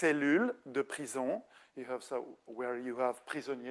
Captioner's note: speaking French